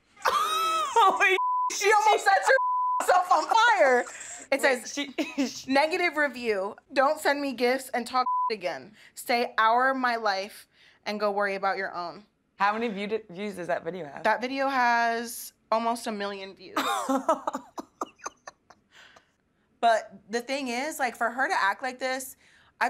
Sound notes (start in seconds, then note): 1.4 beeping; 4.0 laughing; 8.2 beeping; 16.9 laughing